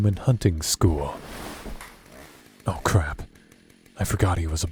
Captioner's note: bed creak